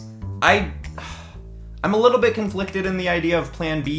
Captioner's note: sighs